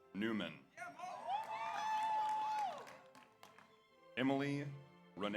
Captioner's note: audience cheers; audience applauds